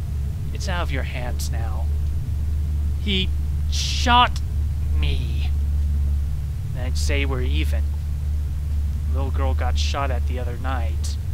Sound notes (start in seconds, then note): none